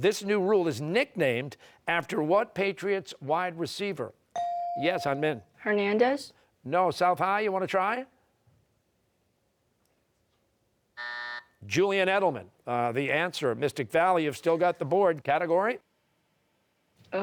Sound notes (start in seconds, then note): 11.0 buzzer